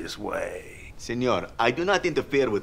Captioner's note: none